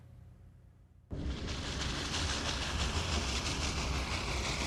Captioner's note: training rumbling